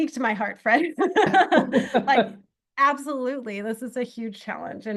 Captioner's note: laughter